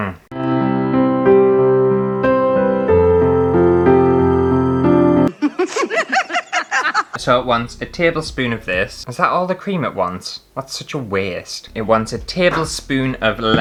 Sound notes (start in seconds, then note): 0.3 sad Music; 5.3 laughter